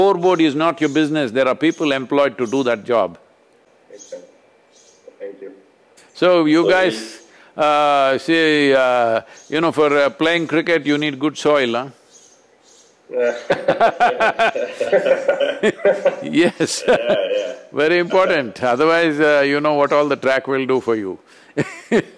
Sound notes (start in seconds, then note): 13.3 laughter; 21.4 laughs